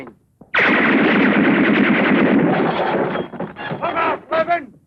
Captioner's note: firing; glass shattering